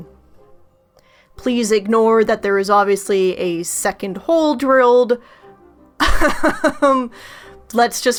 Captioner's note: laughs